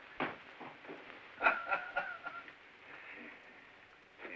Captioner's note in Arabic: يضحك الرئيس